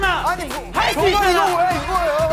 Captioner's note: fluttering